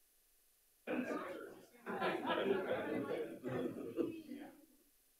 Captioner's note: people chattering